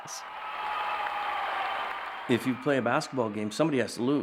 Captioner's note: audience cheering